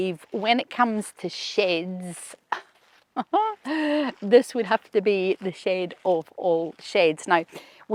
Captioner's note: chuckles